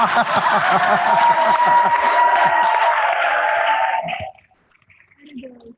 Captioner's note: applause